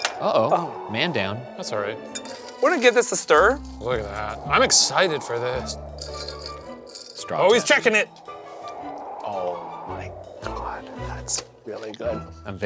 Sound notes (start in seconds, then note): 0.0 ice clinking; 5.8 ice clinking